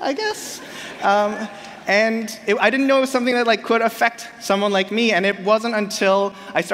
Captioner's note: laughter